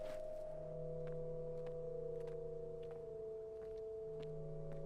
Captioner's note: footsteps pattering